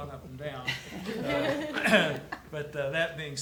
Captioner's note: attendees laughs